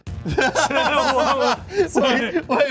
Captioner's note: laughing